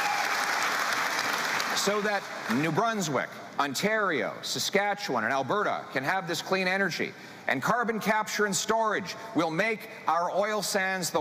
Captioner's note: cheering